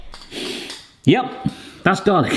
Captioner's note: sniffing